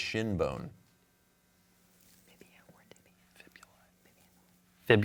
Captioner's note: team whispering